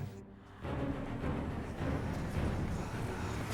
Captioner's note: voices whispering